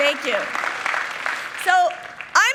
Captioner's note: people clapping